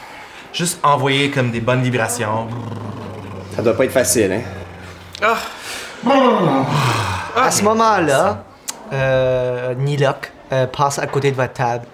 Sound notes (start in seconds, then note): 2.3 Riz'shar exhales noisily; 5.5 Hugo exhales loudly